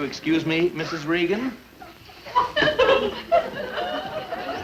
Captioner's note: audience laugh